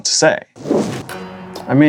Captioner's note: whoosh